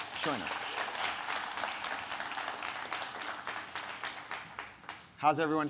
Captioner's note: audience applauding